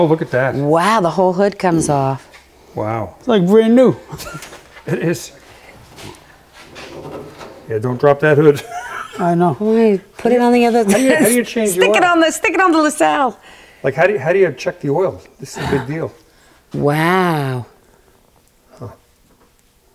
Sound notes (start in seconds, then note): 4.1 laughing; 8.4 laughing